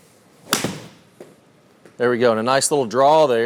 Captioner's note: club thwacks